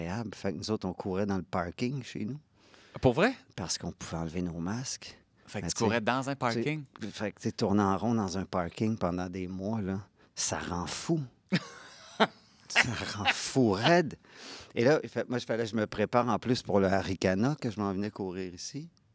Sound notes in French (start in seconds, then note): 11.5 rires